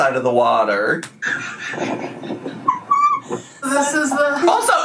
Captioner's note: laughing